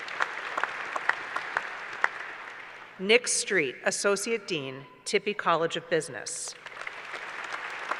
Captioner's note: applause; applause